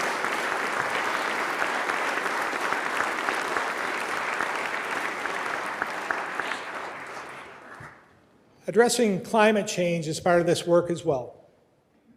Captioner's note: applause